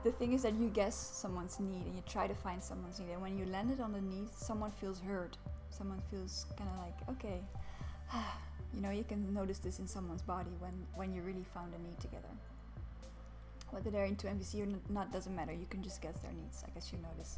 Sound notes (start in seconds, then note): 8.0 sigh